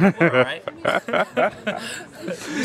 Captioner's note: laugh